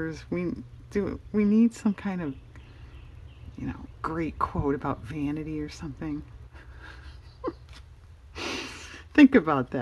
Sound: laughs

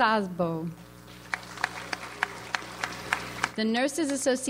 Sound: audience applauds

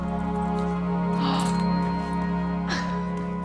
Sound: gasps

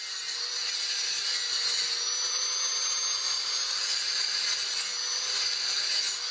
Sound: motor going and metal grinding

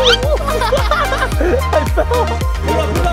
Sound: laughing; dad laughing

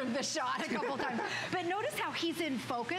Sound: laughter

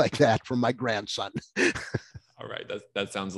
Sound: laughing

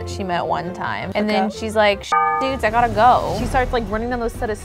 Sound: beeps

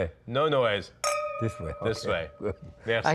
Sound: clink reverberates

